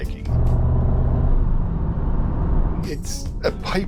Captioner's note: engine revving